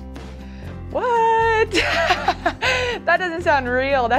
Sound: laughs

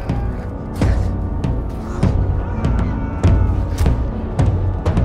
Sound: men Screaming

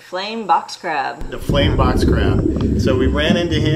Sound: ocean whistling gently

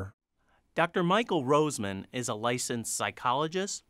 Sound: voiceover

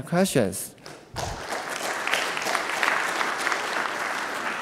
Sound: clapping

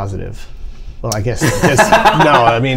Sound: laughter

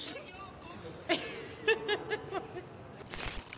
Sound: laughs out loud

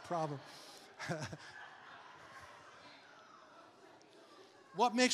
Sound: congregation laughing

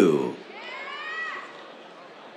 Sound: cheers

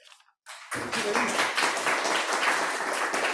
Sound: applause

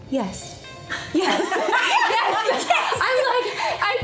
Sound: women laughing

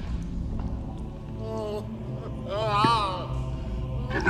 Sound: Gimli weeps

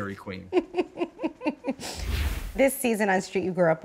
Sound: laughing

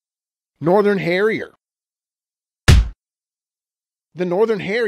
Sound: stamped sound

